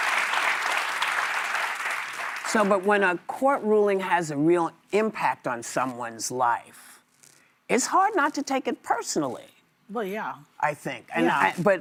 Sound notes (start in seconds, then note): 2.6 applause